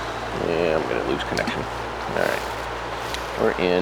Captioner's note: sonar ball splashing